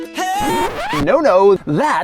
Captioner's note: record scratch